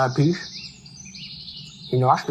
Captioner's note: bird chirping